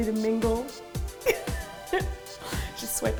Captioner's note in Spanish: se ríe